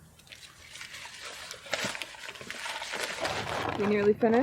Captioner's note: bag crumpling